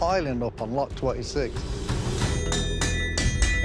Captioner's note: metal banging